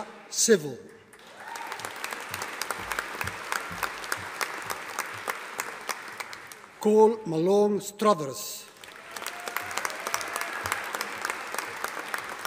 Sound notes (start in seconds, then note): 1.1 audience applauding; 8.7 audience applauding